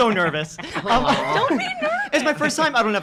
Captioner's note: laughing